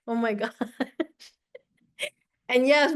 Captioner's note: laughs